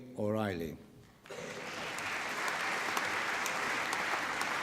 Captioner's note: applause